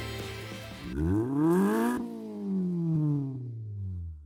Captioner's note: engine revs